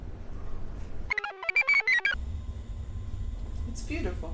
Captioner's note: computer chirps